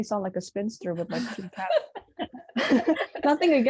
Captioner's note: laughs